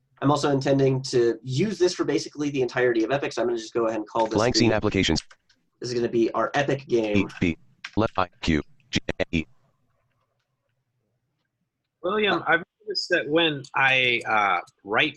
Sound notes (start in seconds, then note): 4.5 computer Voice; 7.6 computer Voice stuttering